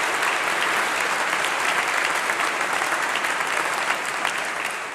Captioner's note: applause